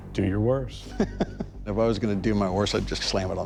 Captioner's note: laughs